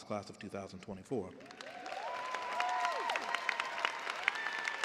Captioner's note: cheers and applause